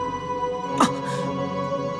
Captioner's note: gasp